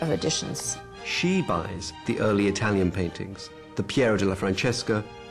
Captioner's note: voiceover